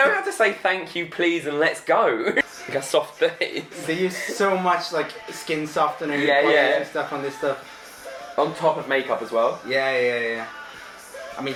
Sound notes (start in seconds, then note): 3.0 laughs